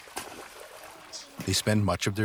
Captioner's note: splashing